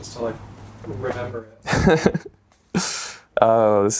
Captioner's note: laughs